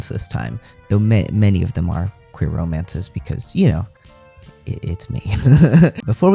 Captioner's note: laugh